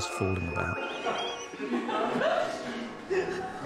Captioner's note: people laughing